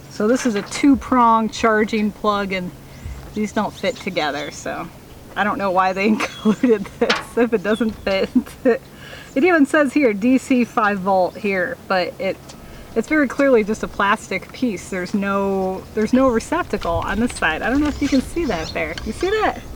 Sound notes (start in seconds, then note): 8.6 laughing